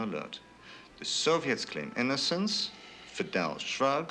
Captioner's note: Adel sighs